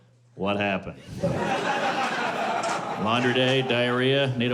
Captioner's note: laughter